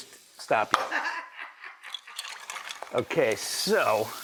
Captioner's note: distant laughing